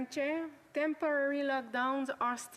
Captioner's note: speaking French